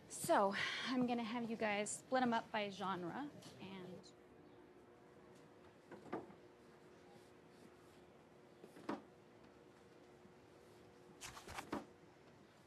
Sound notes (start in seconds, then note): none